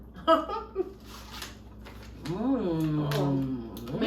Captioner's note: laughs